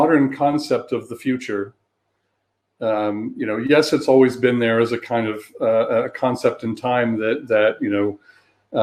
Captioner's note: erm